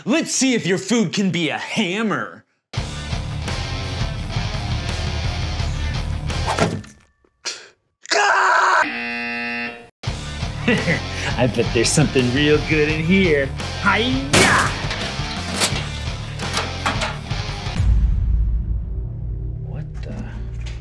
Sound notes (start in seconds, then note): 2.8 intense music; 6.7 baguette thuds; 6.7 bones crunch; 8.0 screams; 8.8 buzzer buzzes; 10.1 intense music; 10.5 laughs; 14.2 lock bangs; 14.4 lock clicks; 17.9 ominous music